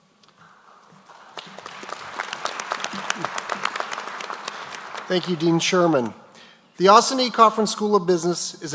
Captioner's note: applause